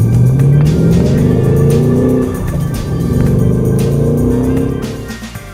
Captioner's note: engine roars